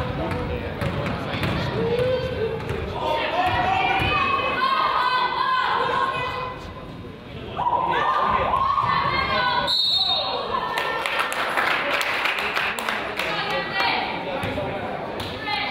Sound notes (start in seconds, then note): 9.6 whistle blows; 10.7 crowd applauds